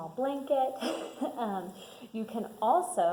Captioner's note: laughs